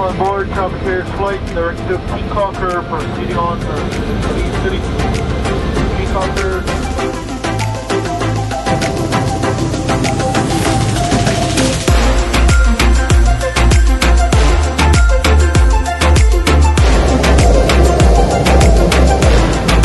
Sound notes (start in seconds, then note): 4.7 airplane engine roaring; 7.6 upbeat techno music